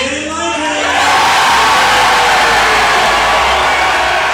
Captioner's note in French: applaudissements